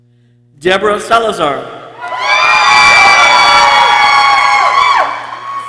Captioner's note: people cheering